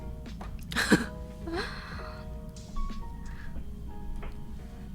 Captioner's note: laughing